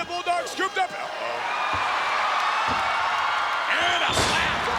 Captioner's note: crowd cheering